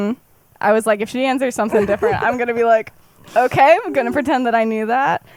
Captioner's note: laughs